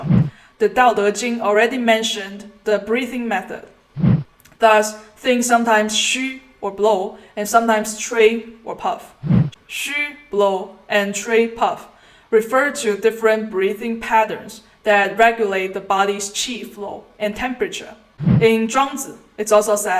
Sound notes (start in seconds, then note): 9.2 puff